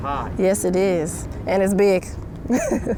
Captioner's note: laughs